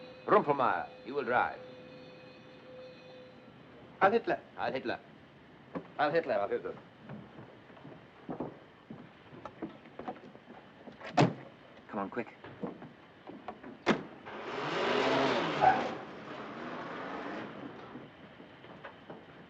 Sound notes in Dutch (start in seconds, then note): 14.2 motor ronkt